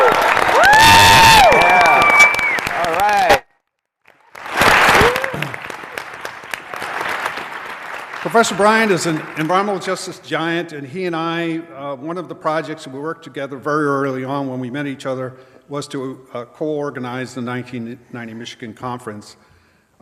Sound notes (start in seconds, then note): 6.0 cheers and applause